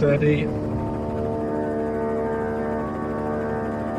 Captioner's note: helicopter buzzing